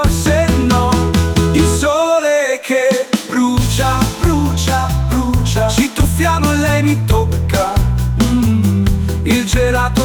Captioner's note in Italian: mmm